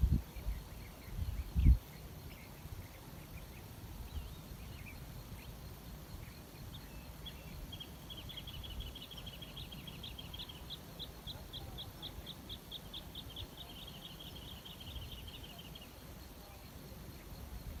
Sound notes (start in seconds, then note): 0.2 birdsong in background; 12.3 voices in background; 15.6 birdsong in background